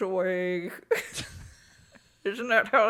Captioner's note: both laugh